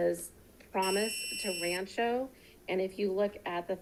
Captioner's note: buzzer buzzing